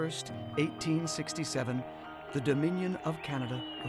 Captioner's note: cheering and applause